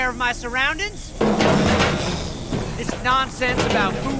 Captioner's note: metal clanking